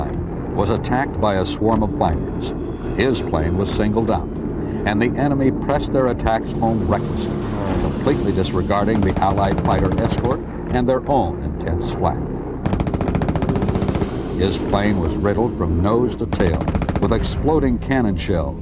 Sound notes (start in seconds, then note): 12.6 gunfire blasting